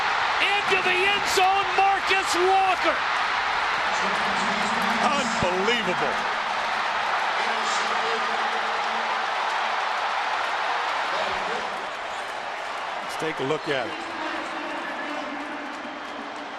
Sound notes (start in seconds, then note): 2.8 crowd cheering